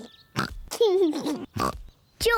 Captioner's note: snorts, giggles